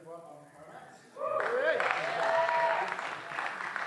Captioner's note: applause